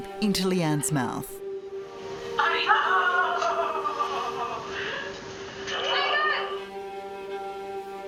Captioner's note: laughing